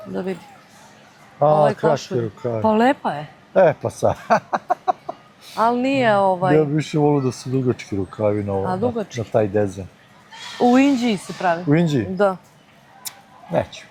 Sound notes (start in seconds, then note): 4.0 laughs